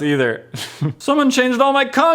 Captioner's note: awkward chuckle